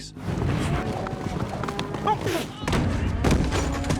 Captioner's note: shouts